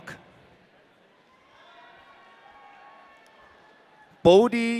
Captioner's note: audience cheering